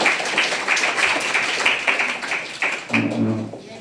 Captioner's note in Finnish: aplodeja